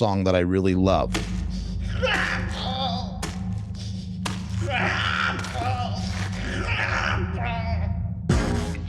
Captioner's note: chopping of flesh